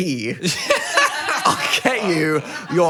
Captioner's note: Phil and crew laugh